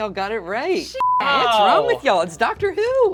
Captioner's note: overlapping chattering